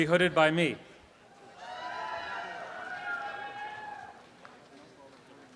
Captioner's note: audience applause